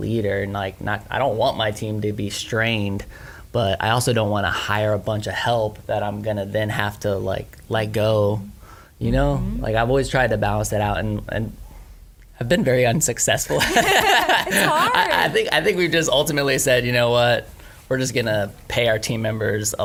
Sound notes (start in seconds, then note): 13.6 laughs